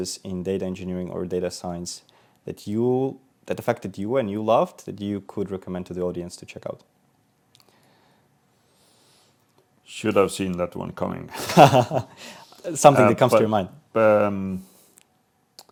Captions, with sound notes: in data engineering or data science that affected you and you loved that you could recommend to the audience to check out? Should have seen that one coming. (laughing) Something that comes to your mind.